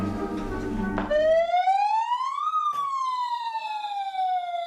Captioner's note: siren blaring